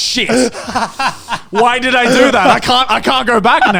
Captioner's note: laughing